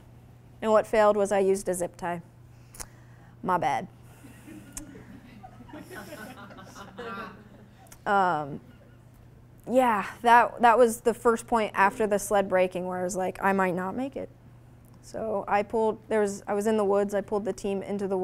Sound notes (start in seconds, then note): 4.2 audience laughing